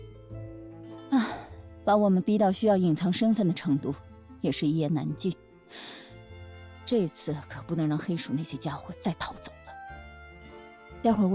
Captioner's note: sighs